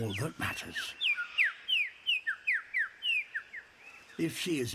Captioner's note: chirps